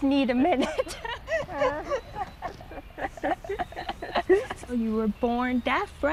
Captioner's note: laughs